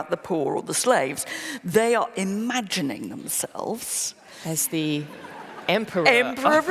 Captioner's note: laughter